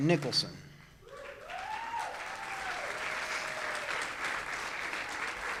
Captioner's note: audience cheers and applauds